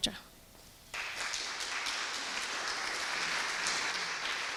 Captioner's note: audience applauding